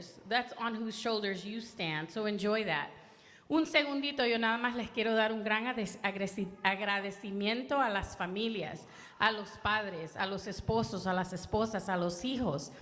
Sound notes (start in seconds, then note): 3.7 speaking in foreign language